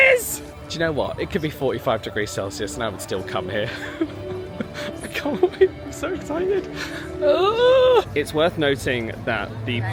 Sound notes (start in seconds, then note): 3.7 laughs; 7.3 exclaims excitedly